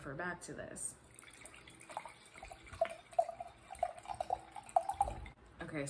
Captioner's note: pouring wine